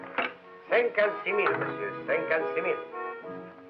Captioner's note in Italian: lingua francese